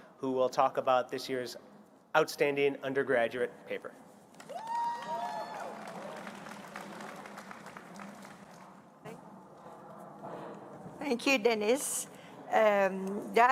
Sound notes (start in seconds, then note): 4.4 applause